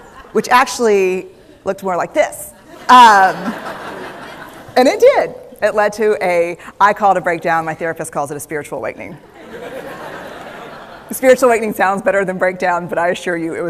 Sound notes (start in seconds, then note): 3.2 laughter; 9.3 laughter